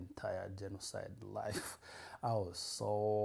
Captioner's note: laughs